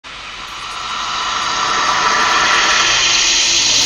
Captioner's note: static buzzing